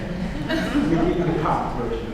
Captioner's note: audience laughs